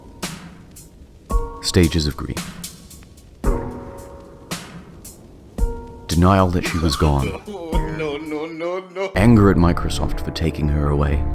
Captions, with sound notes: Stages of grief. Denial that she was gone. *overused/unfunny normie weeping* no no no no Anger at Microsoft for taking her away